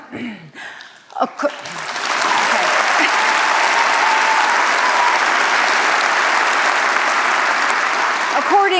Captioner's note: applause, cheers